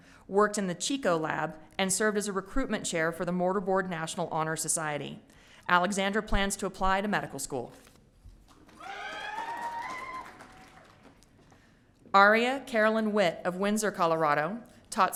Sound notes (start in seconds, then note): 8.7 audience cheering